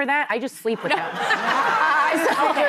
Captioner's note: laughter